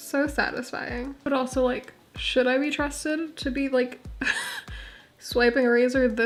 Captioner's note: laugh